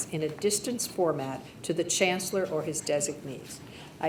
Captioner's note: none